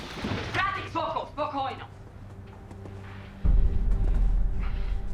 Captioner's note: speaking russian